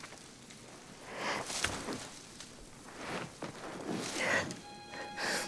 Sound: Agoston sobbing softly; somber music

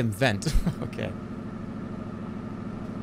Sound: chuckles

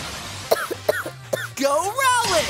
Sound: cough, cough, cough

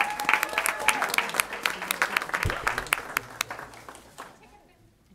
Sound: cheering, applause

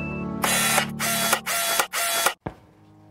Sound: camera zooming noises

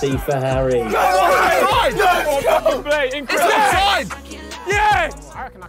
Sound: Sidemen cheering

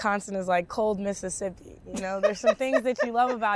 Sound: laughing

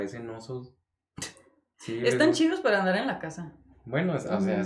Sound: laughs

